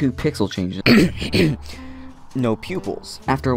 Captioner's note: clearing throat